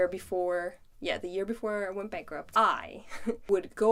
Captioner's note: chuckles